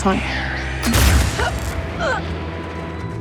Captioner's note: sue gasps, winces